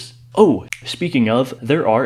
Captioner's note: snap